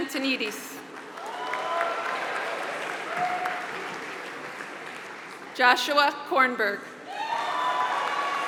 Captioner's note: applause; applause